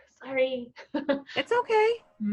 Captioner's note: laughing